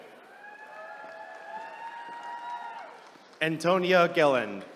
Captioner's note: attendees cheering